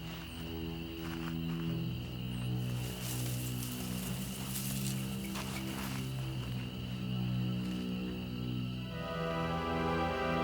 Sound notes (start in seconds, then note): 0.1 spooky music; 3.6 tree branches rustling